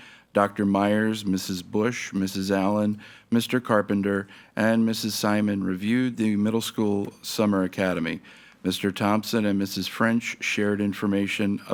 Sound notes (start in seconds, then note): none